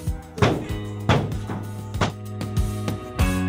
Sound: basketball hitting floor

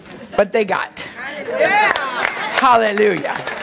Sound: congregation applauding

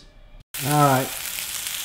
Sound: sizzling

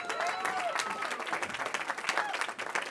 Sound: cheering

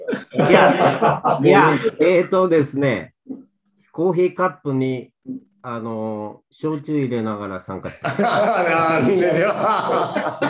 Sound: laughs; laughter; laughs

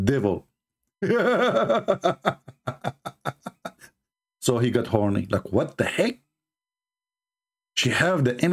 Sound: Ketawa

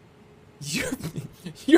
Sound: laughing maniacally

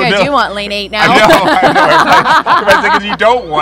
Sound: laughter

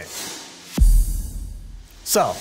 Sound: deep base sound

